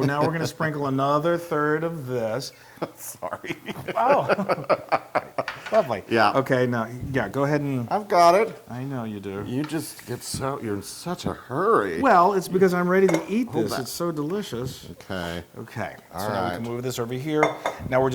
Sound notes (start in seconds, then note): 0.0 laugh; 3.1 laugh